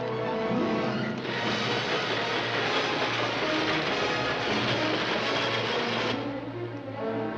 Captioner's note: dramatic music; train roaring; dramatic music